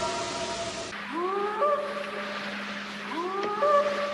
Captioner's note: eerie howl; short howls